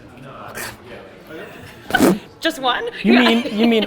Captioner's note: laughs; Gary blows raspberry